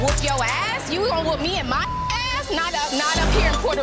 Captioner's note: beep; beep